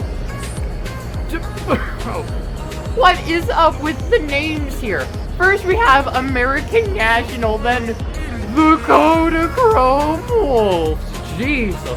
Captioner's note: tries to hold back his laughter